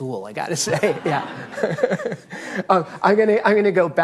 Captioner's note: audience laughing